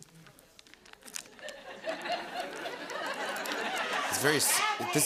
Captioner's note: laughter